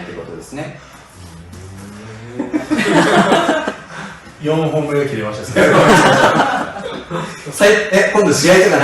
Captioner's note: laughs